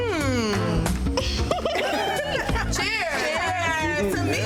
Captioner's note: women laughing